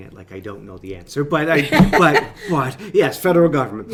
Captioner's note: laughing; laughs